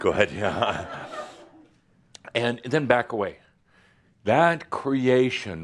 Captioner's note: some laughter